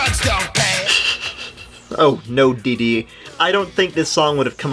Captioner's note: snickers